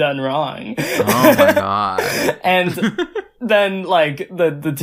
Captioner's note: laughs